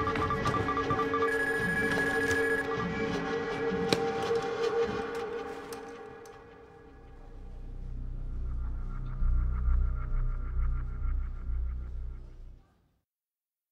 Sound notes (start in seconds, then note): 0.0 rapid beeping